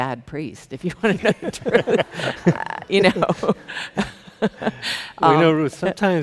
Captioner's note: chuckles